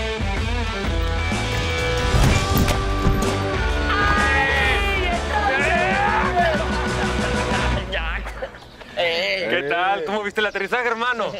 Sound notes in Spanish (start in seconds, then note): 3.8 Gritos y exclamaciones